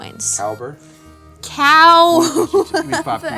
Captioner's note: chuckles